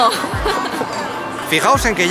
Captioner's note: cries